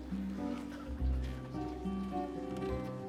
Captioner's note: crowd murmuring